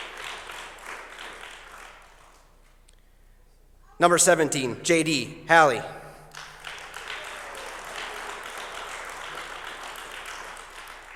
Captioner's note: applause